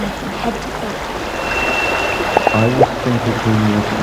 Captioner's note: high-pitched noise; running water, popping